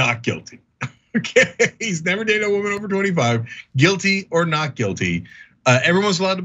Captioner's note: laugh